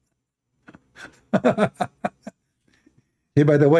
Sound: Ketawa

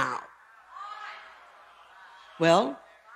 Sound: chatter from the audience

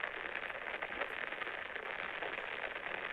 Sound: white noise intensifying

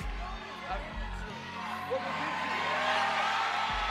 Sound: audience shouting

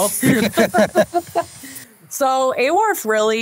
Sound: group laughing

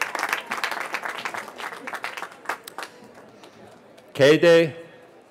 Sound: cheering

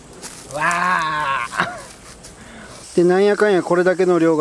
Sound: haha

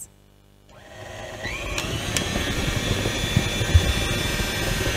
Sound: machine whirling

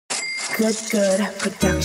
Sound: cash register dings; lighthearted hip hop music

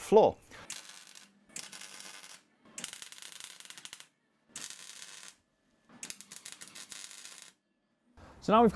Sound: welding

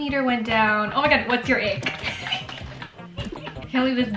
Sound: laughing

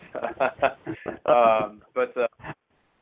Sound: laughter

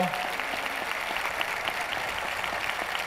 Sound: applause

